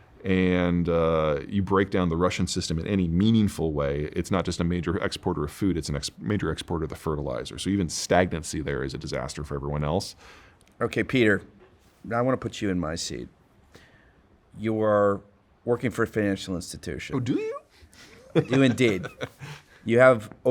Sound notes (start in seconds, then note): 18.0 chuckling